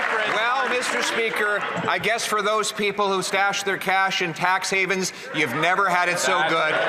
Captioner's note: some Applause